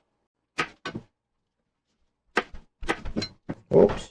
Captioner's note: knife cutting